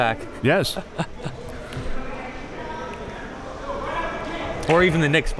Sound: laughing

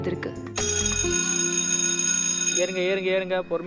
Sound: school bell ringing

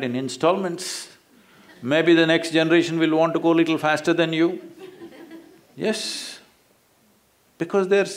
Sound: few laugh

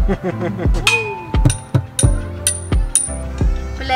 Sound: drum beating; laughing

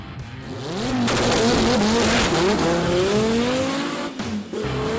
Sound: car engine roaring

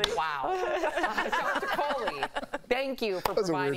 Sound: laughter

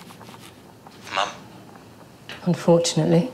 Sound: Jonathan on phone speaker

